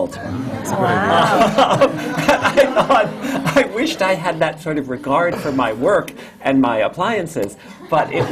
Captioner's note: laughs; laughter